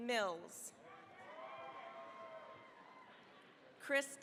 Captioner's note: cheering, applause